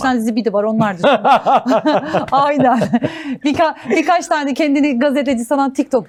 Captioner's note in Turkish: kahkaha